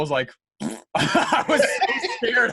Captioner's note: laughing